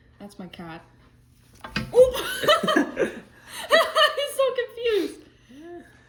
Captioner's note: laughs